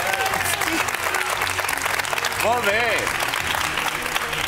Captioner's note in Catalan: aplaudiments